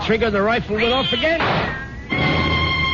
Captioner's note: gunshot